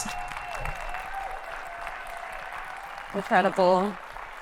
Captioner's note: audience clapping and cheering